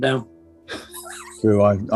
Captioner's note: sniggering